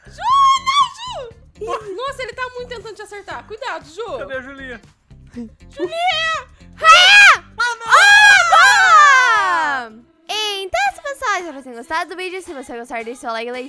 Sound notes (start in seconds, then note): 6.8 scream; 6.8 screaming; 7.7 cheering; 7.8 screaming